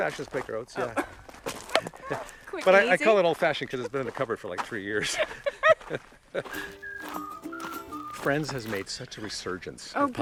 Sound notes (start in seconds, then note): 5.0 both laugh; 6.5 bright music